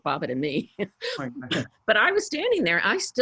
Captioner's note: laughs